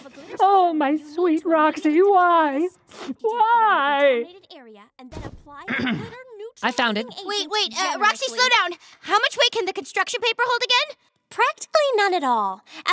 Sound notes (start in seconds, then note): 5.6 clears throat